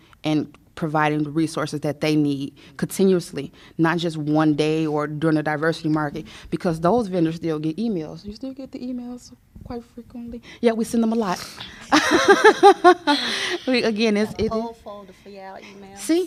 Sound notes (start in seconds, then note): 11.8 laughter